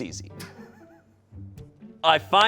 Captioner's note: crew laughs